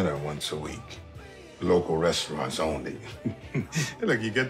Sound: chuckles

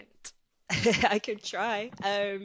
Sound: laughs

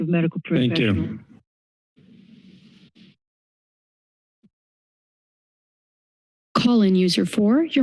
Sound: silence

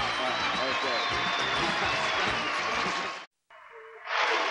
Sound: applauding

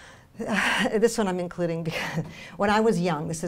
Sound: laughs

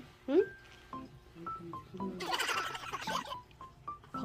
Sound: talking in his sleep

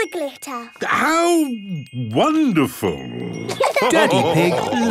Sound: laughter

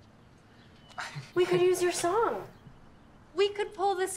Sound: Timmy giggles

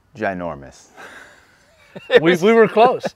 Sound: laugh

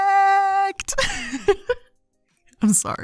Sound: giggling

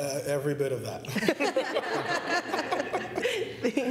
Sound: laughter

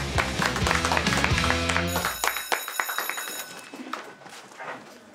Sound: students clapping; school bell ringing

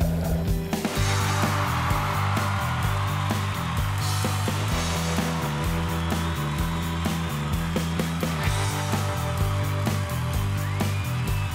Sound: crowd cheering

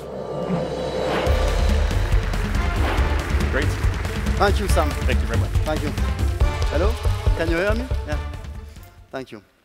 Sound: applause

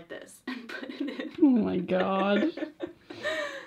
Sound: laughs

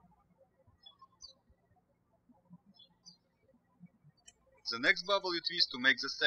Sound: birds chirping

